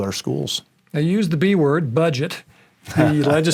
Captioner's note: laughing